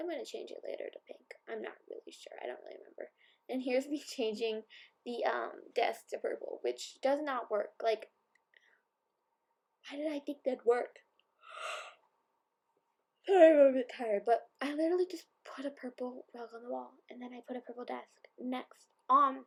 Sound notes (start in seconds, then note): 11.5 yawn